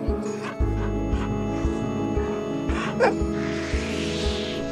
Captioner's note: dog barking